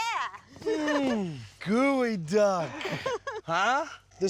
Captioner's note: laughing